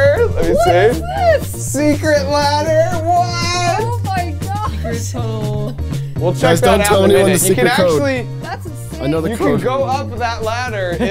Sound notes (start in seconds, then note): 3.2 laughing